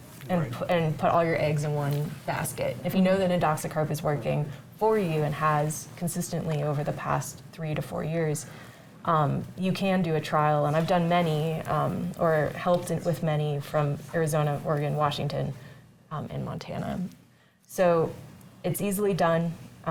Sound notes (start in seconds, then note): none